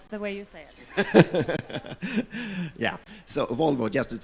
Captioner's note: laughs